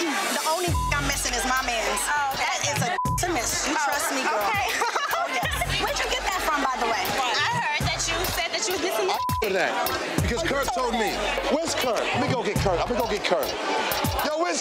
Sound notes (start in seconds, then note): 0.6 beep; 3.5 laughs; 9.0 beep